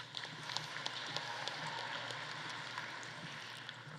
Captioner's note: audience applauding